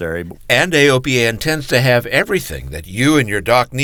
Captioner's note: voiceover